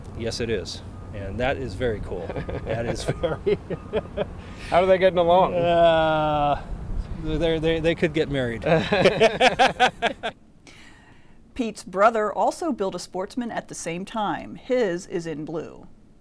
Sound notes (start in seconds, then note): 2.1 laughing; 8.6 laughing